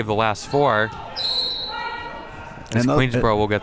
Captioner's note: whistle blows